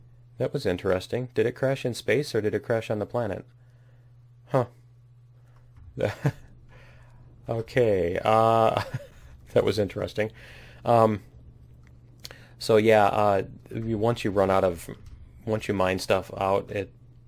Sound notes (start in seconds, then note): 5.2 laughs